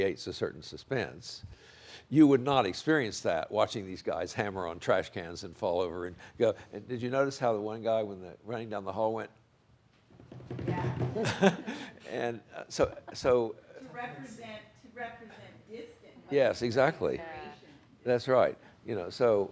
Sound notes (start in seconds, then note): 10.1 stomps feet